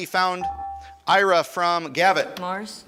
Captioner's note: buzzer chimes